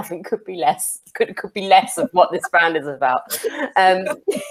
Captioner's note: laughs